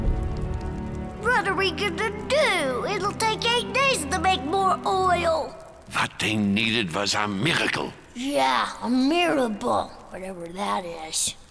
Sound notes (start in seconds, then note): none